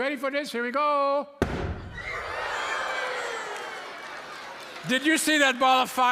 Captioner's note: loud boom; audience screams